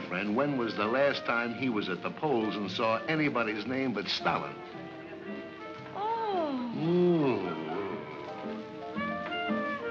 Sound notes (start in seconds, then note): 7.1 mocking tone